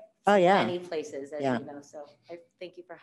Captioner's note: faintly speaking